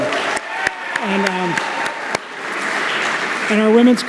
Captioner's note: applause